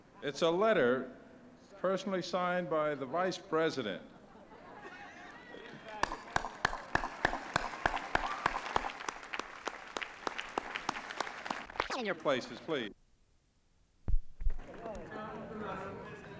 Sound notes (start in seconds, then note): 4.2 laughter; 5.6 applause